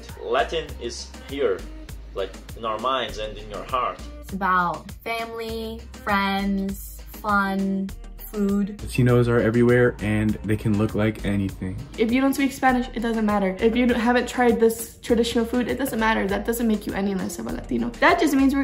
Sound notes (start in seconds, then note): none